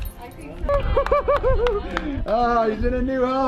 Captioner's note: people clapping